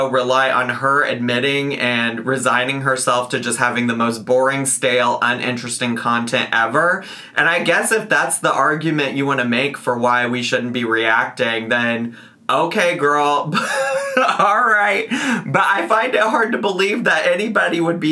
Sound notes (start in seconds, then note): 13.5 laughs